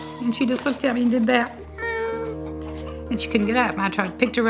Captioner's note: whines